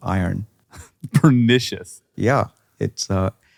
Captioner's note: chuckles